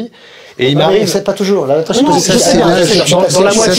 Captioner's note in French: brouhaha